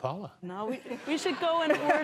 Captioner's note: laughter